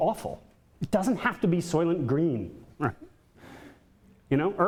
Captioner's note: chuckles